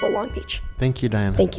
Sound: timer chimes

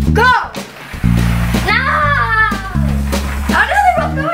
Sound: yells

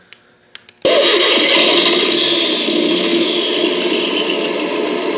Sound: engine sounds

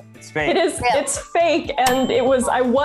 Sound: bell dings

